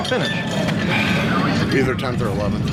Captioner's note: sighs